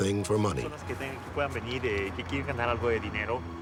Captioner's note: speaking spanish